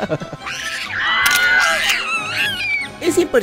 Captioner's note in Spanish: ambos ríen; sonido mono y cámara fotográfica